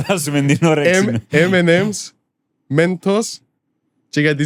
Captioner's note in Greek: γέλια